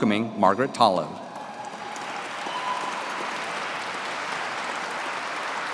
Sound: audience clapping

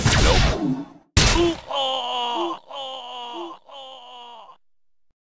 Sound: reuses guile's hilarious ssf2t ko scream

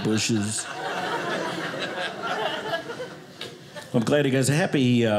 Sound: audience laughing

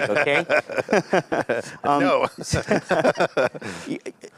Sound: laughing

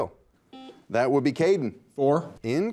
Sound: buzzer beeps

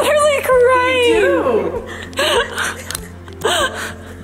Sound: laughing

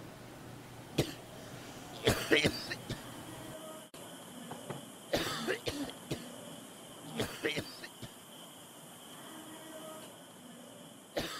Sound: violent coughing

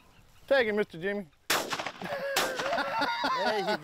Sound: gun firing; laughing

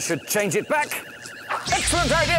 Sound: zap!

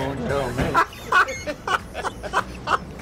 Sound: laughs

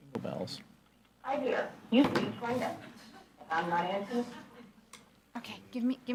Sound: machine Voice

